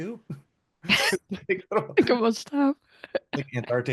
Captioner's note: laughs